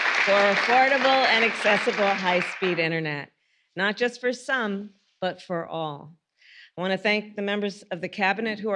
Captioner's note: applause